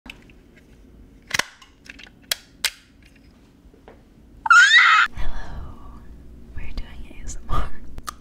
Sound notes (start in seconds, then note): 1.2 stapler crunches; 4.5 speaker screeches